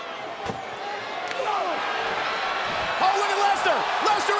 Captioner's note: crowd roars